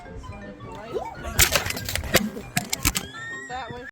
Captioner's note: exclamations